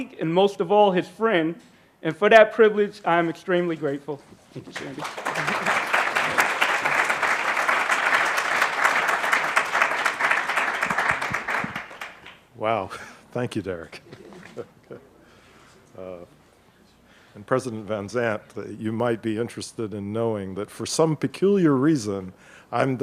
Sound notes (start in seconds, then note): 4.6 laughs; 7.5 audience applauding; 13.9 chuckles